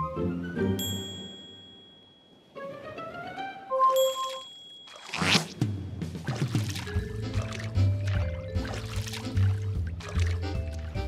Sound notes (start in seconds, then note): 0.8 bell dings; 4.0 bell dings